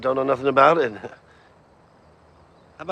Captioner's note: chuckling